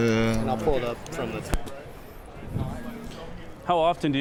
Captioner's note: cord unplugs